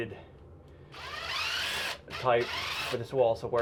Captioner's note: drill whirs